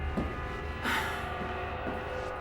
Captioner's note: sigh